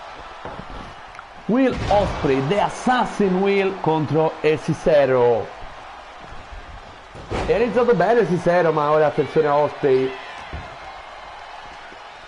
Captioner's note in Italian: Applauso